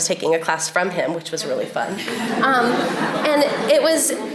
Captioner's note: audience laughs